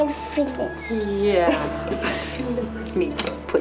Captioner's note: chuckles